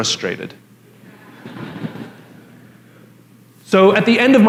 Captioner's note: La audiencia se ríe